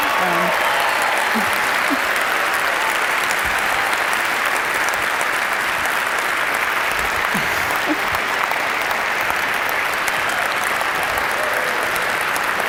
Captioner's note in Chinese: 掌聲